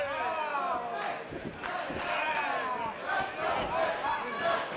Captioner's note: crowd chants